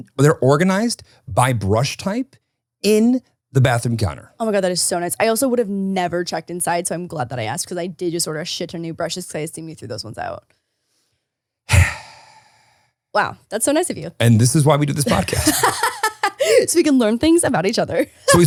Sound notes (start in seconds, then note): 11.7 exhales